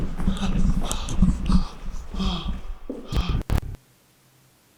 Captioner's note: Jacob panting; static flipping